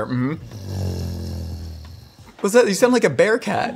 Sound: bearcat Sound

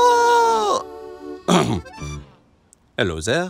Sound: clears throat

